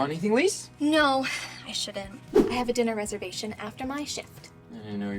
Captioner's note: whoosh